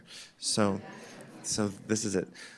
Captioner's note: chuckling